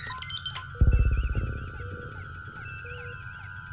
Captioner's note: deep thumping sound